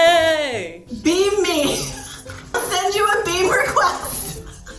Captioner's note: laughing